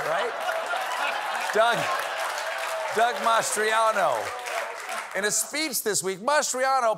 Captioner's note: laughter